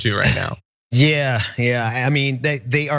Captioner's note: laugh